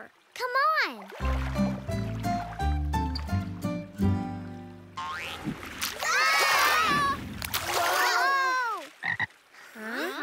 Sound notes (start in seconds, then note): 1.0 water gurgling; 9.0 croaking